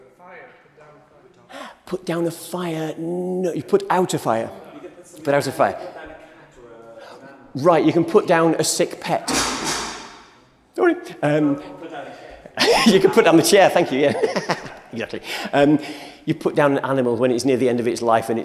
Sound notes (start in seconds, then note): 9.3 chair falls loudly; 12.5 laughs